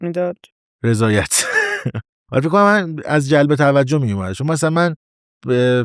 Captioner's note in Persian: خنده